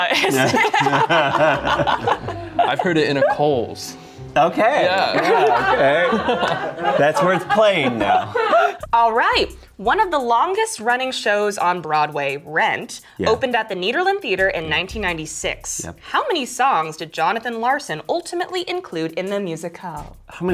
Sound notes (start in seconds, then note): 1.6 laughs